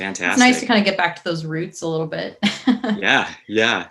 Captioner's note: chuckles